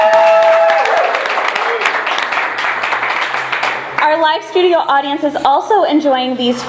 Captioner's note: clapping and cheering